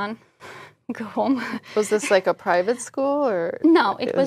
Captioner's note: laugh